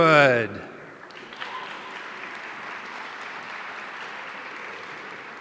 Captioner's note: audience applauding